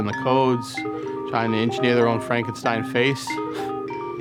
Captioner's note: scoffs